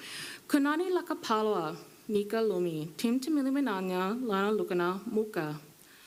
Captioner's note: speaking foreign language